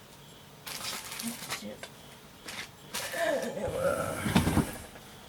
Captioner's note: ruffles things around